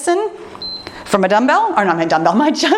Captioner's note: timer beeps